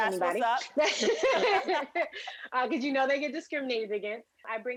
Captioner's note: laughter